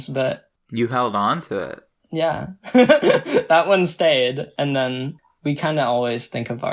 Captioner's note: laughs